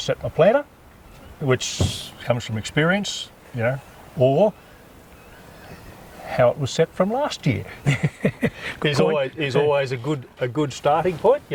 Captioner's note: laugh